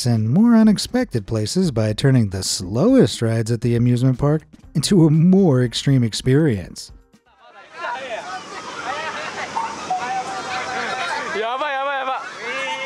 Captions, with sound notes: in more unexpected places by turning the slowest rides at the amusement park into a more extreme experience. (speaking in foreign language)